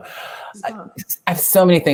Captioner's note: laugh